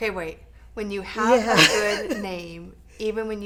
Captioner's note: laughing